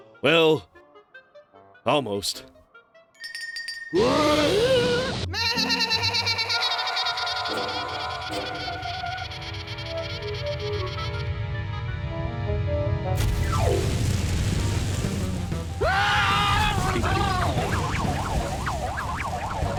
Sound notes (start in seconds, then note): 3.2 bell rings; 5.3 bleating loudly; 15.8 screaming